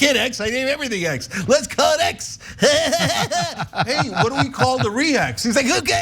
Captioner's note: laugh